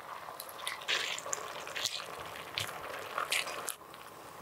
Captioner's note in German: Geiles Schmatzgeräusch